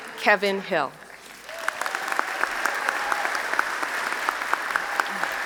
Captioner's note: applause